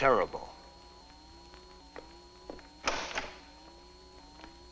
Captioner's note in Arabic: جهاز يصدر صوت طنين